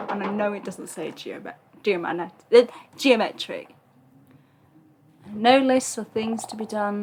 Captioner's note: struggling to speak